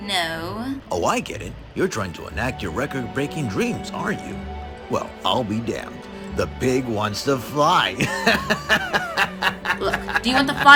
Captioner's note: laughs